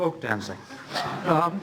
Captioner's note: laughter